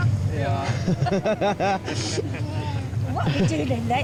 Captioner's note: all laughing